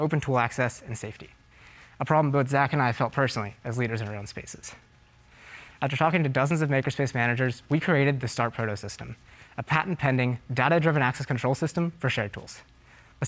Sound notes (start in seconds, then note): none